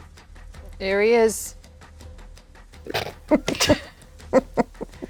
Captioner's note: snorting